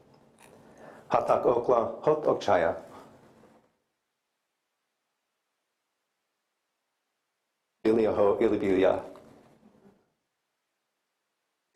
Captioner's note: non-english speech